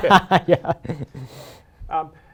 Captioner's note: laughs